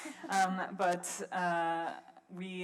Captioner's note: laughs